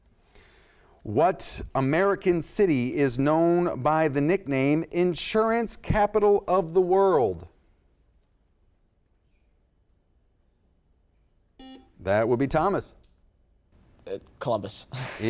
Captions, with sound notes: What American city is known by the nickname, Insurance Capital of the World. (buzzer sounds) That would be Thomas. - Columbus.